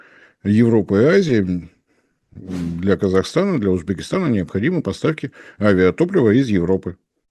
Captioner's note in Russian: откашливается